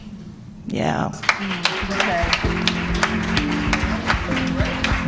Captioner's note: applause